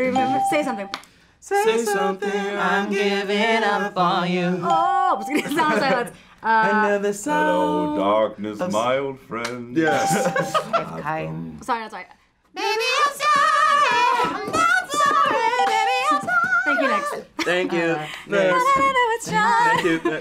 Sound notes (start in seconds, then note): 5.4 laughs